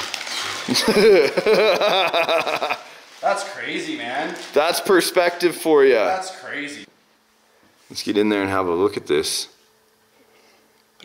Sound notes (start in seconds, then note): 0.6 laughs